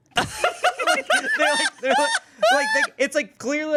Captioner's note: everyone laughs